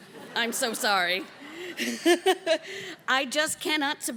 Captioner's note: laughs